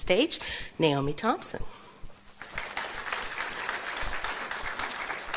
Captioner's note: applause